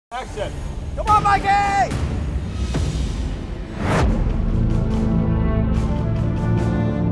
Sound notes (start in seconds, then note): 2.4 dramatic instrumental music; 3.8 air whooshing